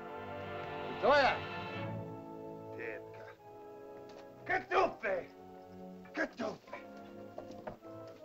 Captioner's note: soft dramatic music; speaking in caveman language; soft dramatic music